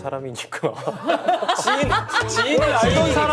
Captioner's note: laughs